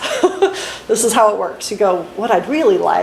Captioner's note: laughs